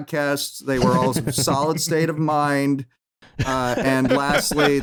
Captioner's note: laughter